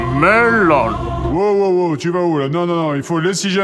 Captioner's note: disembodied voice